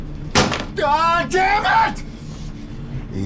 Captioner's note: metal banging